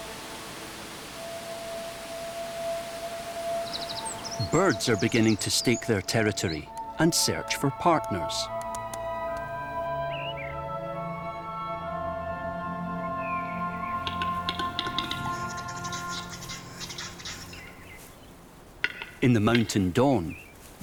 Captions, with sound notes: Birds are beginning to stake their territory and search for partners. [birdsong] [bird makes clicking sound] In the mountain dawn,